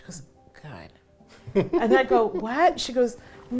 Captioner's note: laughs